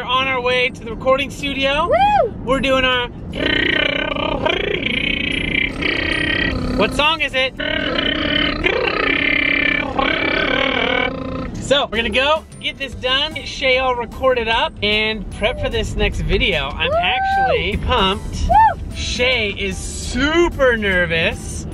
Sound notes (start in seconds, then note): 0.0 sings quietly; 4.6 buzzes lips